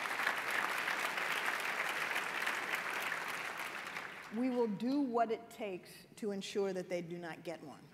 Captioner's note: applause